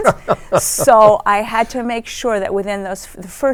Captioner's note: laughs